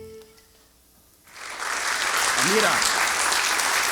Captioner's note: music out. Applause